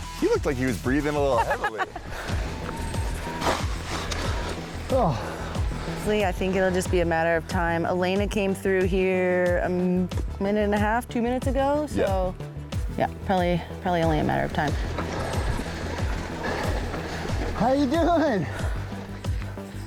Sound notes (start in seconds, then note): 1.3 laughing; 1.3 panting; 4.8 upbeat music; 15.1 panting